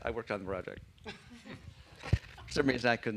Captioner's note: laughter